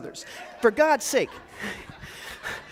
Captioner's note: audience laughs